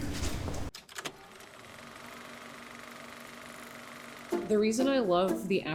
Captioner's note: film reel whirring